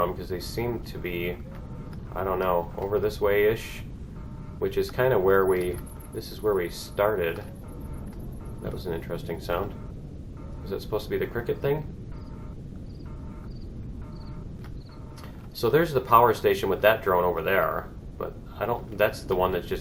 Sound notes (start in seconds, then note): 6.7 dinosaur roar distorted; 12.8 cricket chirps